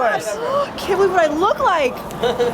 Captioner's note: gasps